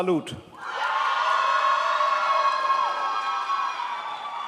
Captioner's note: crowd applauds